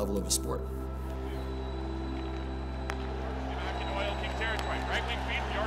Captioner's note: fans cheering